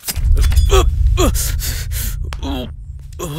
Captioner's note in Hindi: कराहना